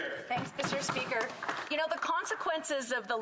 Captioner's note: some Applause